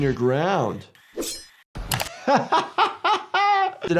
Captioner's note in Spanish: el doctor se ríe